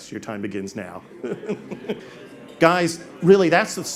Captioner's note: all laugh